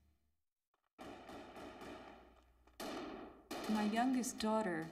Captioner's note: gunfire